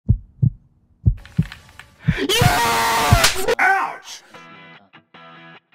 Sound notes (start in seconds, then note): 2.2 happy screem